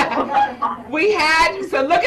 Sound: chuckles

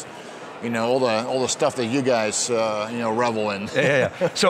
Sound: laughs

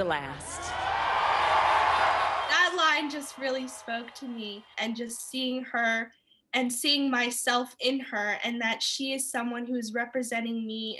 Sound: cheers and Applause

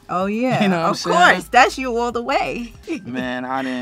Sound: chuckles

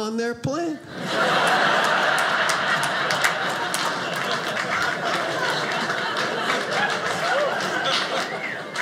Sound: audience laughing

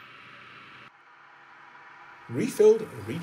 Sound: drone whirring; machines humming

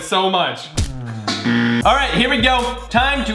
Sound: buzzer

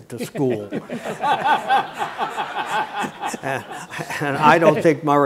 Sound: audience laughing

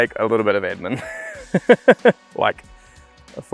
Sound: laughing

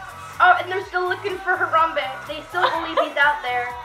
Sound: laughing

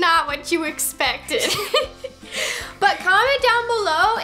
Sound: both laugh

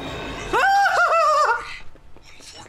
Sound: screaming

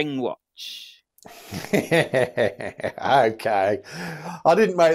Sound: laughs

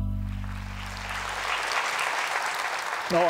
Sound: applause

